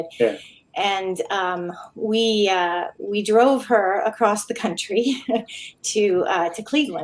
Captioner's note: chuckling